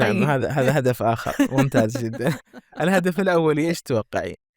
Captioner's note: laughter